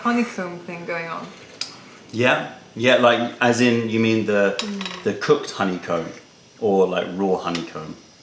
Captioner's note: sips tea